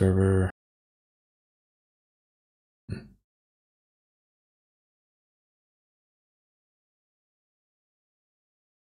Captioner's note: blank Audio